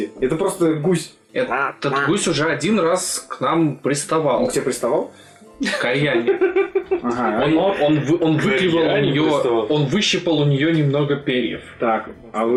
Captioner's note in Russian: Селур ржот